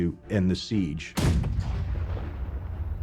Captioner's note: cannon firing